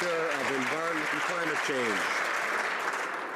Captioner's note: some Applause